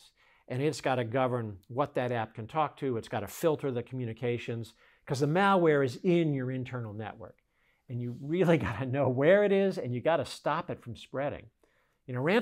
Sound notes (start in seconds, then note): 8.4 laughs